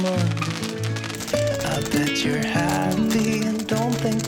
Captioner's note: the many yachts lit fireworks at the same time